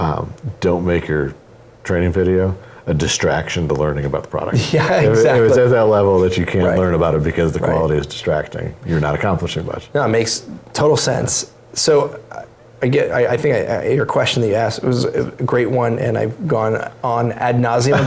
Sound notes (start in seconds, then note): 4.6 laugh